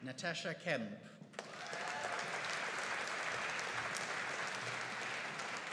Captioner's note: audience applauding